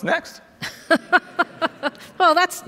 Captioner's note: Lisa laughs